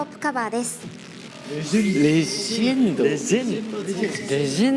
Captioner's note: commotion